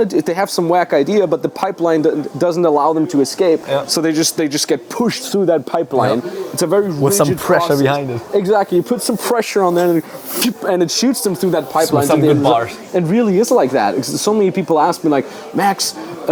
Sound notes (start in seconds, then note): 10.1 whooshing